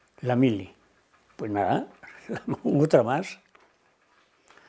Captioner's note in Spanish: Ríe